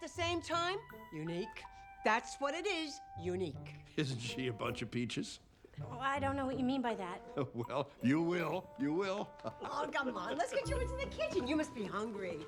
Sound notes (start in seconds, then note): 7.2 laughs